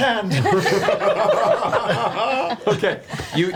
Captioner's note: all laugh